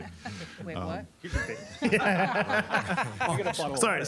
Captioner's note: all laughing